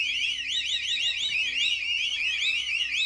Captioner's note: whistle